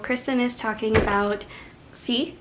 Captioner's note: BANG noise